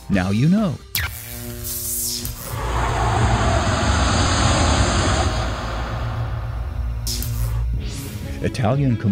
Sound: sound Effects

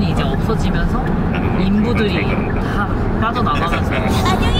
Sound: students chatting with themselves

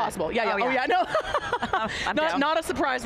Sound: laughs

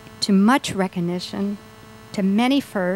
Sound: none

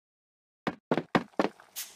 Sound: footsteps

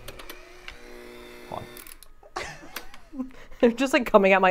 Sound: mixer whirring

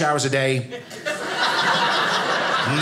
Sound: audience laughing

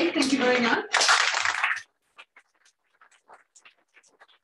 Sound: applause

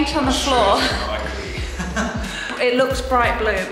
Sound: speaking softly

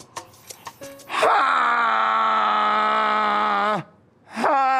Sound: Jay yells

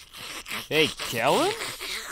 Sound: obnoxius slurping

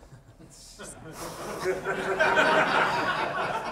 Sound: laughter

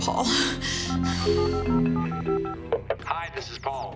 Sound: phone dialing

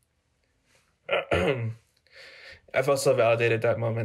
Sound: clears throat

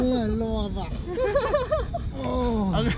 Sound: laughs

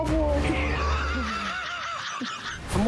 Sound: laughter

